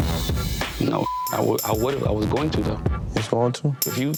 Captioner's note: beep